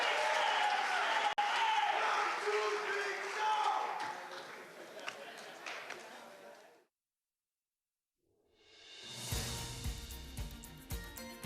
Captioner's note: applause